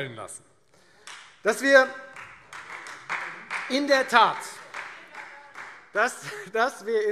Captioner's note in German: Beifall Freie Demokraten